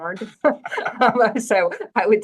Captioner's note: all laugh